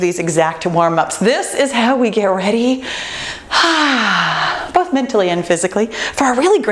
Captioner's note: sighs